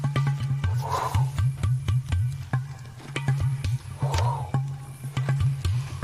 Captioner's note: exciting music; puffing